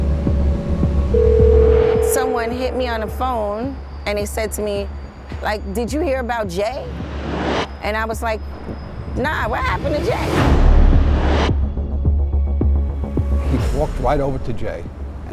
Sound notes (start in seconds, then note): 1.1 phone ringing